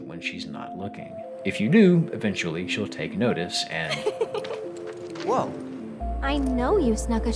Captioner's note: Aerith laughs